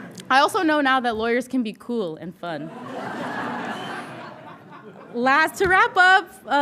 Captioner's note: audience laughing